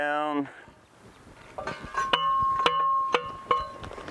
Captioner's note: tapping